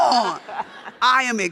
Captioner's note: audience laughs